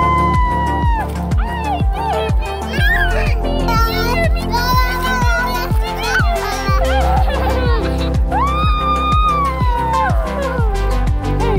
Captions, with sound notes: - Did you get me? Did you get me? (both laughing)